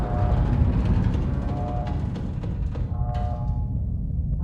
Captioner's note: distant blast; metal creaking; alarm blaring